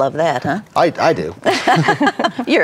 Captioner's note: women laugh